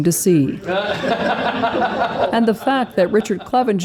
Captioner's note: laughter